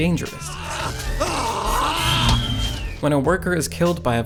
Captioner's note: yelling